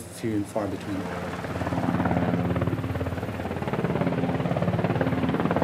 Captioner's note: blades whirring